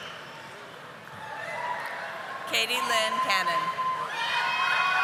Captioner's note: audience applauding